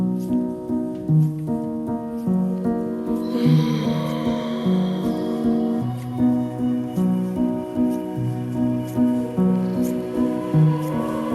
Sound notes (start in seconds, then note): 3.2 woman sighs voluptuously